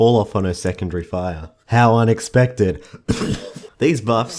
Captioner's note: cough